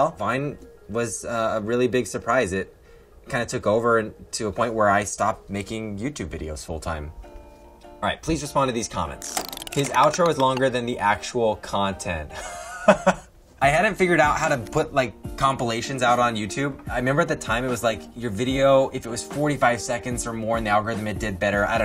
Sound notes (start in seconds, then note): 12.4 laughs